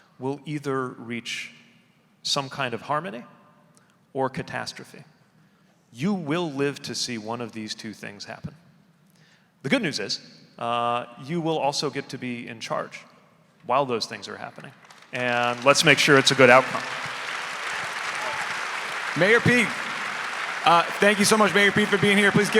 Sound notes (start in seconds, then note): 17.1 audience applauding